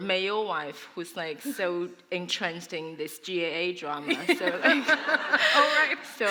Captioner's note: laughter